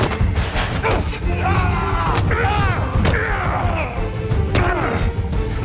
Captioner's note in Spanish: Gritos